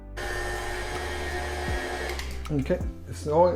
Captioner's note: blender churning